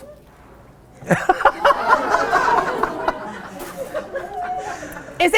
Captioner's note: audience laughing